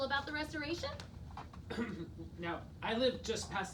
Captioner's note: clears throat